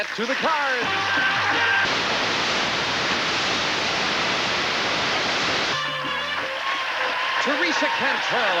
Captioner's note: audience applauding